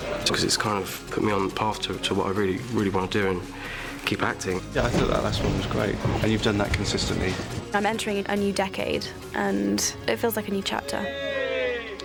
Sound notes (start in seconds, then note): none